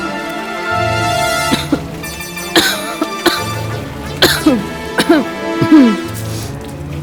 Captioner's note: continues coughing